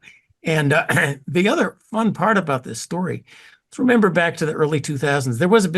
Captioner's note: cough